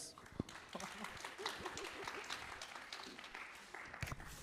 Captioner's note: audience applauding